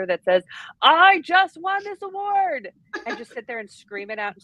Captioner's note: laughing